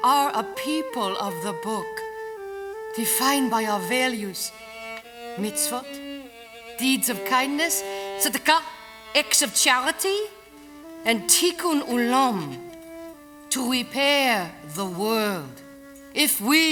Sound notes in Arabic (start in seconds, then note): 9.2 بالعبري; 13.3 بالعبري